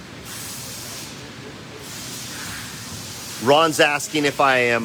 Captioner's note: workers speaking faintly